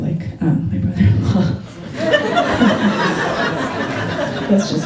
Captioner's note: laughter